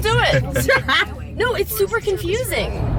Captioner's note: laughs